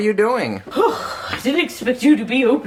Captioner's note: scoffs